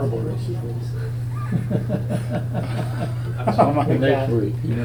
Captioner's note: Richard laughing